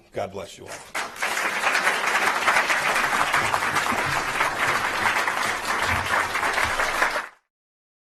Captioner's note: applause